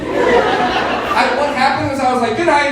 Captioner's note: audience laughing